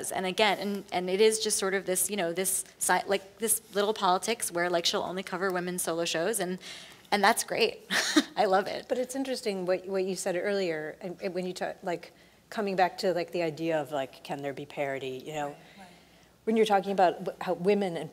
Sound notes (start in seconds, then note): 8.2 laughs